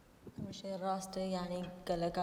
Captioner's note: speaking kurdish